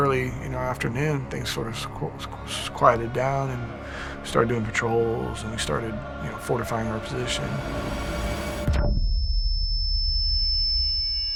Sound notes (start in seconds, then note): 7.1 high-pitched ringing